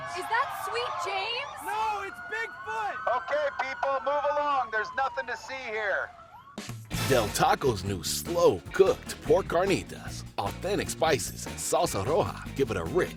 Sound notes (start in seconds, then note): 2.1 cheering